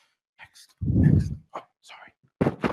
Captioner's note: whispering